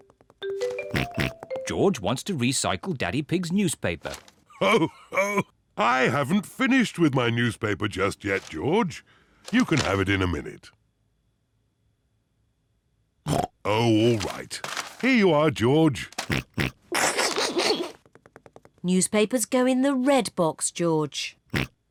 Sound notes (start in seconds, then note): 0.0 snorts, giggles; 0.9 snorts; 4.5 laughs; 13.3 snorts; 16.3 snorts, snickers